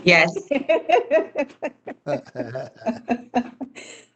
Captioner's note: laughing